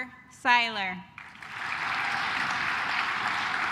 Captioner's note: claps